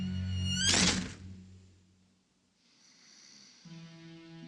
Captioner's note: door slams